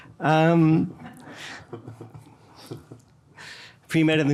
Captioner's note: everyone laughing